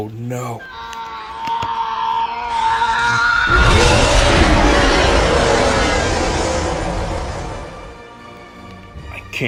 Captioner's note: earth-shattering shriek